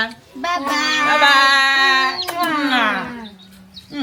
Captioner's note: kisses